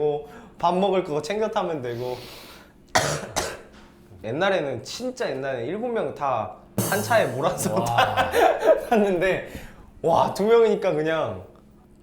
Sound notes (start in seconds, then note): 2.9 coughing